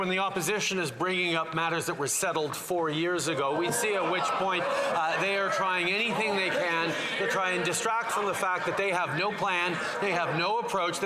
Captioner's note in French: voix de l'interprète